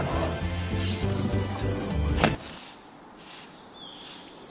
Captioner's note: drops firmly to ground, music stops; birds tweeting